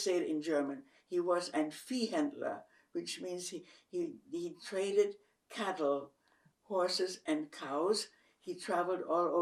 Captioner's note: german